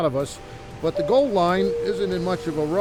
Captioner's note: streetcar door dings